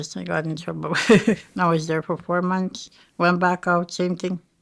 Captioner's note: chuckling